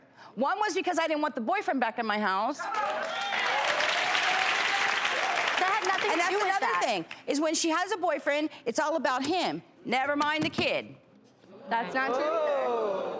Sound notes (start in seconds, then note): 2.6 audience cheering